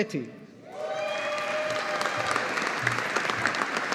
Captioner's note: audience applauding